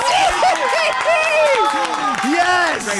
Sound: cheering

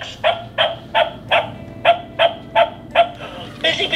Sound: barking

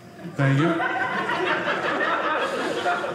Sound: audience laughing

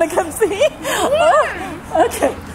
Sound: both giggling

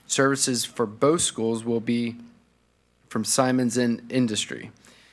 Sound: none

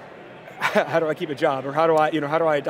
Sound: chuckles

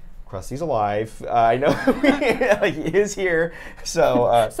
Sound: laughs

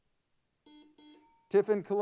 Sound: buzzer sounds; bell pings

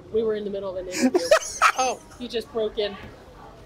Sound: laughs

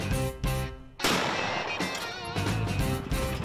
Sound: gunshot

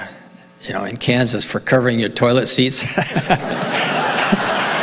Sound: laughs

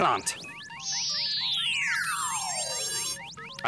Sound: buzz

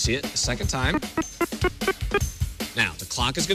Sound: beeping

